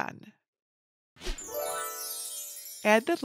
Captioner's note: gentle tinkling